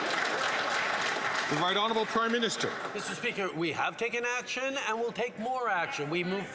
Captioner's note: some Applause